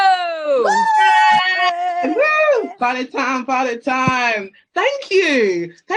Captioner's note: whooping and cheering